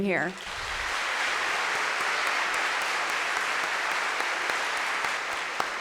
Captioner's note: applause